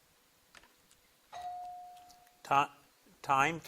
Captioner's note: buzzer blips